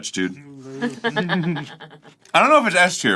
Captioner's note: laughing but keeping it inside